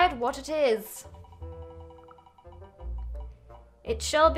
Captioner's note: wheel spinning